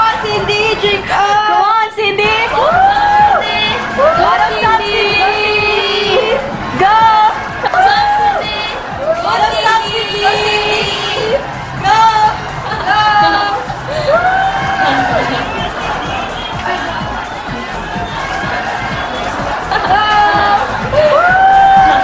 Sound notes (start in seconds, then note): 8.1 everyone's cheering Cindy